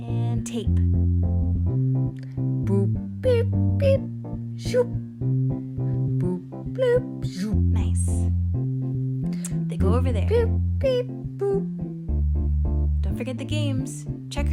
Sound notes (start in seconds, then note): 3.7 makes robot sounds